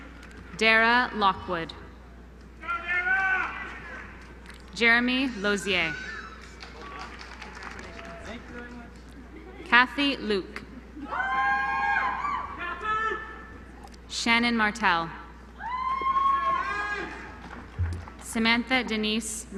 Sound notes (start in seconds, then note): 6.2 applause